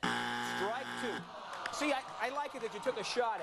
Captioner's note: buzzer